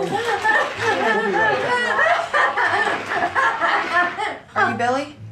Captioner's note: Gina laughing